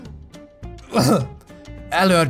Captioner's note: cough